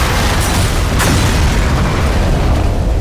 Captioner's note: loud explosion